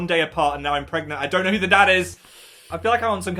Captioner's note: sucks teeth